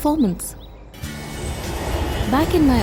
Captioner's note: metro rushing